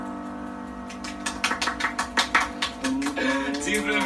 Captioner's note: clapping